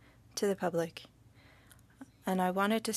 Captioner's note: speaking French